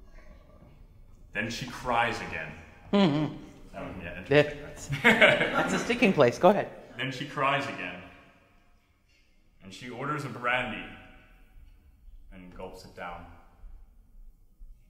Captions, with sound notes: Then she cries again. [laughing] - That's a sticking place, go ahead. - Then she cries again and she orders a brandy and gulps it down.